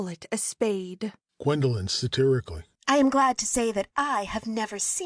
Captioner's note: satirically